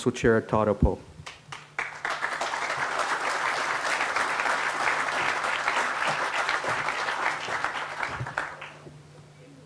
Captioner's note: crowd applause